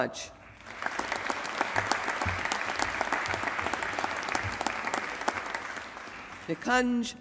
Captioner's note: applause